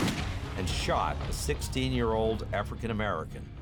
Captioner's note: gun fires